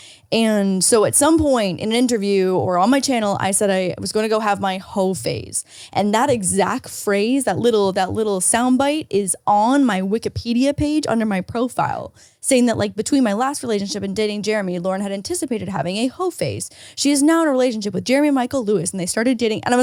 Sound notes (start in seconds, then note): none